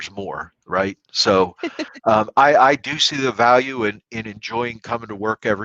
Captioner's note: laughter